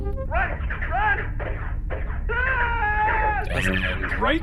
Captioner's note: over sounds of blaster fire